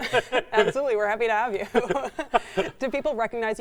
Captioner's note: chuckles; laughs